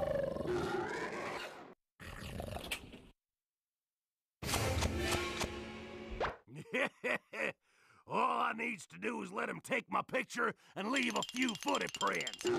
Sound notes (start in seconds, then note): 2.6 growling stops; 6.5 laughing